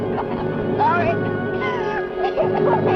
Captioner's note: sobbing